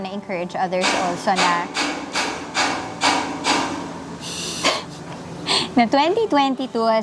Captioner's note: construction noises